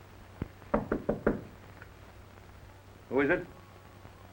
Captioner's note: knocking on door